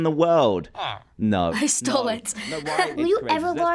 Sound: laughs

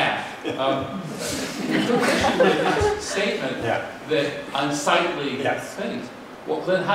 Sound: laughter

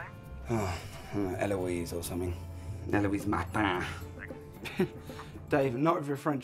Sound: French accent

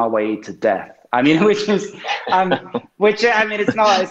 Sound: laughing

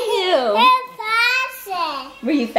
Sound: laughs

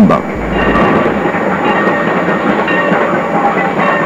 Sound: train bell

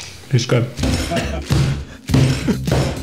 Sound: smashing

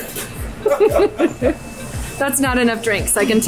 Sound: laughing

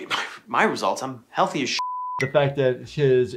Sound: beep

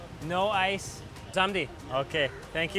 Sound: speaking foreign language

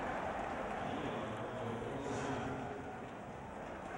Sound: stadium announcement

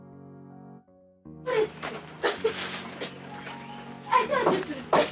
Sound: coughs

